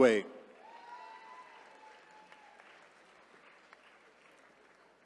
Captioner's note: attendees cheering